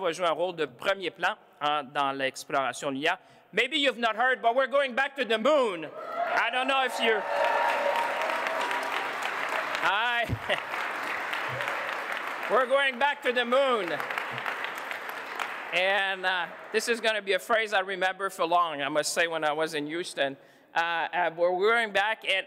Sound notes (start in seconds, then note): 10.7 applause